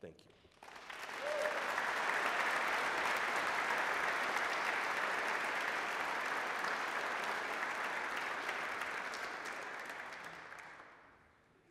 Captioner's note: applause